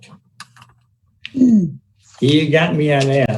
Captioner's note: throat clearing